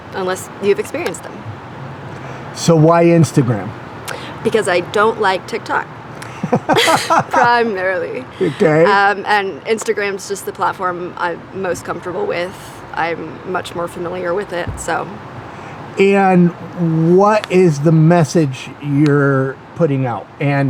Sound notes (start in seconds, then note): 6.2 chuckles; 6.2 laughs